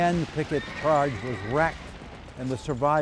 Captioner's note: horse squeals